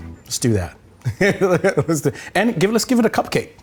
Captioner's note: laughing